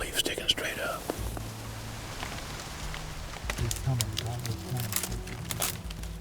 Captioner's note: whispering